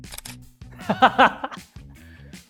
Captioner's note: laughs